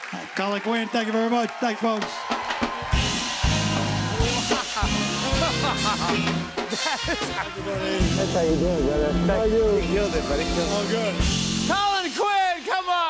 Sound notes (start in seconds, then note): 2.2 cheers and applause; 4.0 laughs